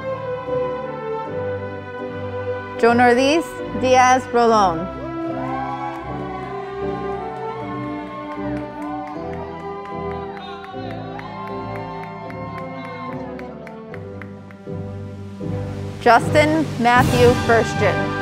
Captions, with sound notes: Jonairalys Diaz Rolon, (audience applauding) Justin Matthew Firstiun,